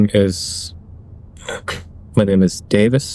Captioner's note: clears throat